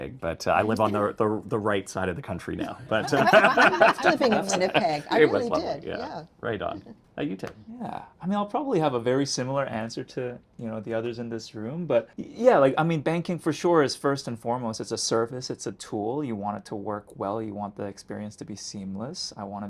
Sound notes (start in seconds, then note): 2.6 attendees laughing